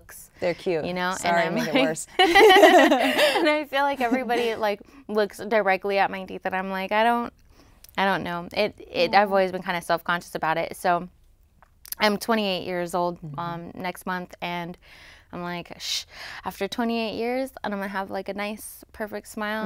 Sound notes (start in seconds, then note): 2.1 both laughs